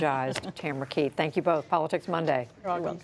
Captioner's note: laughter